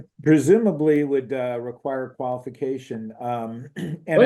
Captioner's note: cough